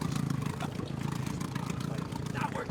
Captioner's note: chattering